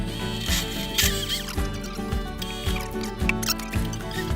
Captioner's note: high-pitched whirring